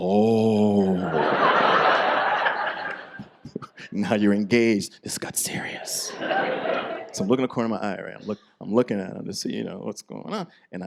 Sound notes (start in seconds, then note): 0.9 audience laughs